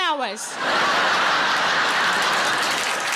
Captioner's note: audience laughing; audience applauding